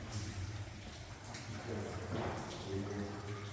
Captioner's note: sound of dripping water